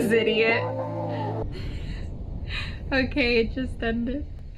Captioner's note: laughs